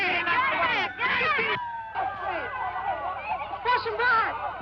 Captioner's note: siren wailing